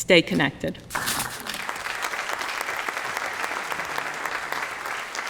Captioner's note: applause